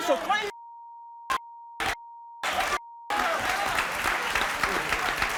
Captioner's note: beeps; audience cheers